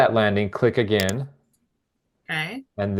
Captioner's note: mouse clicking